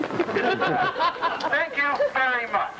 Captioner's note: laughter